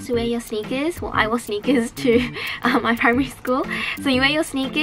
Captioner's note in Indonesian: haha